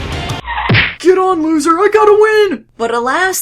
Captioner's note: smack